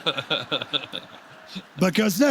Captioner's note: laughter